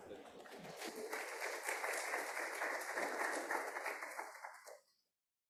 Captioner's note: audience applauding